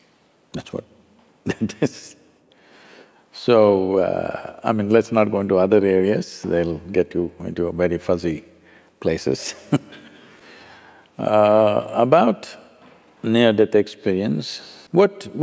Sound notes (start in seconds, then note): 2.5 laughs; 10.2 laughs